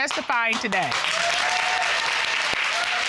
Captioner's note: audience applauding